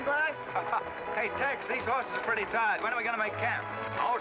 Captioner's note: chuckles